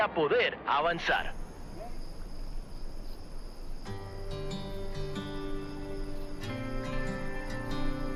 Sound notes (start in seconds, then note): 0.7 crickets chirr; 3.8 mellow music